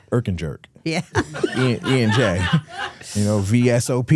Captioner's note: laughs